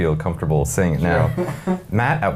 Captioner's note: chuckling